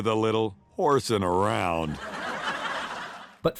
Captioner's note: audience laughs